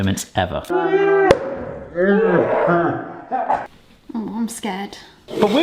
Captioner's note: slowed-down talking